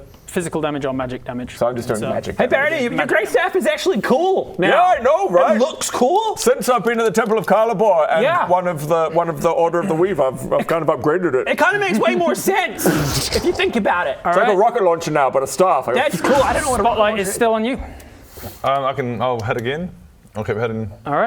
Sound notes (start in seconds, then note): 12.8 boooossch